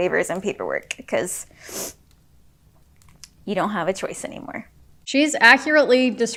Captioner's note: sniffles